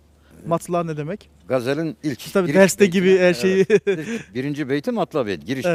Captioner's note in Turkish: kahkaha